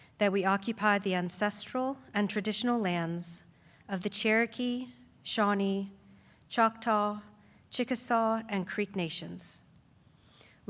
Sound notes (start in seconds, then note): none